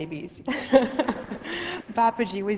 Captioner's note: laughs